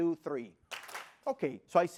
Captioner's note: clap